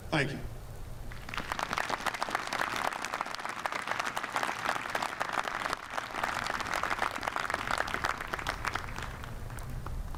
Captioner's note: applause